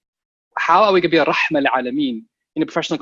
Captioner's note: speaking a foreign language